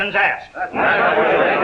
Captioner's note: crowd murmurs angrily